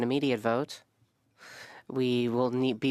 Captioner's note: speaking French